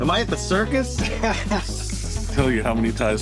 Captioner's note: laughs